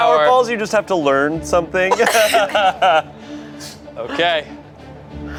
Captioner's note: laughs